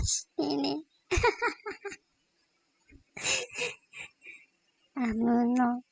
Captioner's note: laugh